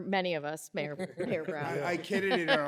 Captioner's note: laughter